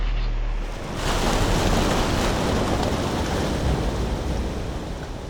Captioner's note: waves crashing